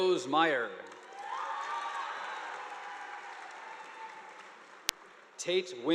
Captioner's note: audience applauding